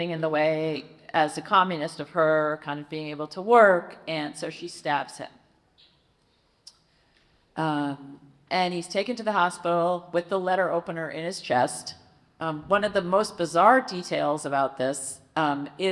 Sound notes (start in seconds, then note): none